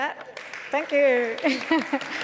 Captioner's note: applause